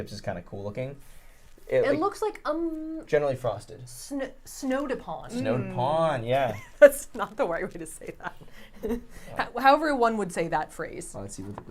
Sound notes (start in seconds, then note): 9.2 laughs